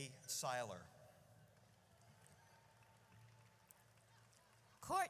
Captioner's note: audience cheers